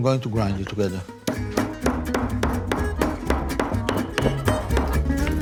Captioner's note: pestle thumping and grinding